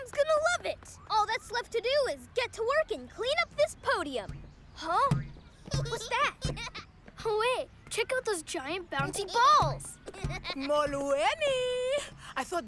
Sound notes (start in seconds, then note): 5.7 giggling